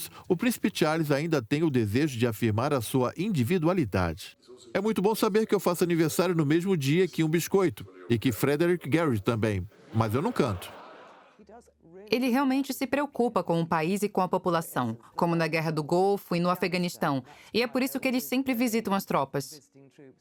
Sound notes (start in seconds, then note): 9.7 audience laughs